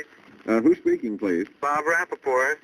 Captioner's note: on phone